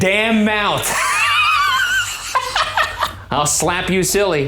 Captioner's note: laughing